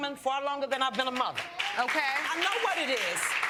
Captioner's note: audience applauding